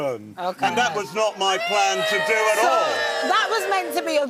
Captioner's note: audience boos